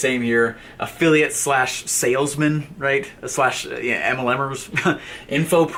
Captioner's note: laughs